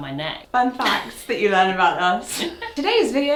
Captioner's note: chuckles